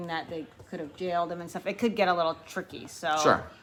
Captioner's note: none